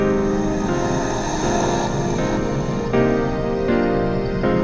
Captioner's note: sound of assisted breathing